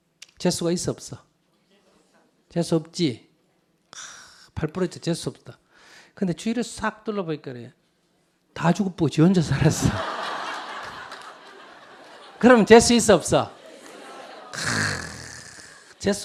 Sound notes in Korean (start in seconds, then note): 9.6 청중웃음